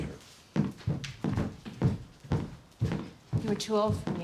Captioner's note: footsteps thudding